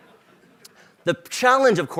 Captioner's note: laughter